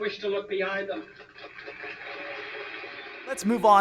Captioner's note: audience applauding